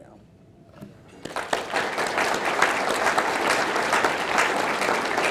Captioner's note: audience clapping